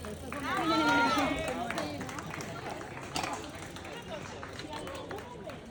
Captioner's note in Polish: Aplauz